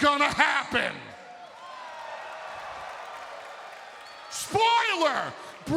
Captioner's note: crowd cheering